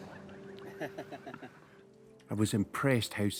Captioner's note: laughs